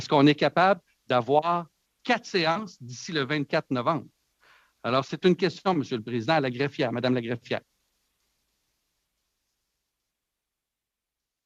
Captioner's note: speaking French